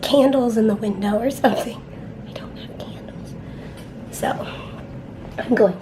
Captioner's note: whispers